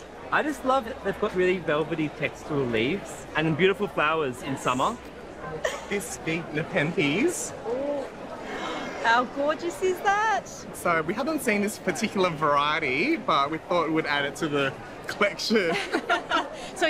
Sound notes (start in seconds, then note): 8.4 gasps; 15.6 all laugh